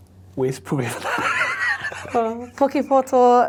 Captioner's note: both laughing